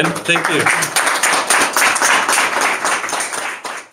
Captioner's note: audience applauds